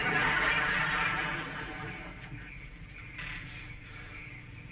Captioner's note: audience laughing